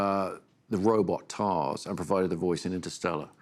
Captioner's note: none